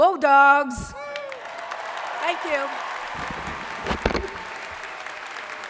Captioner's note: crowd applauding